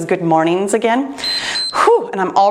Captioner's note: timer beeps